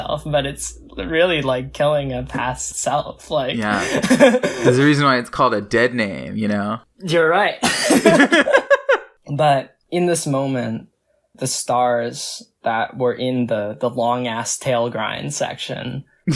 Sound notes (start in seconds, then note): 3.6 laughs; 8.6 both laugh